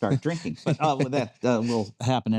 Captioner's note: laughing